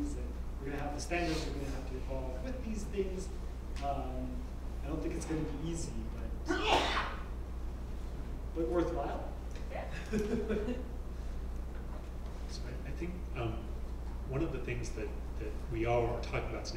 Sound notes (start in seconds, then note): 9.9 laugh